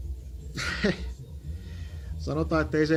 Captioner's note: laughs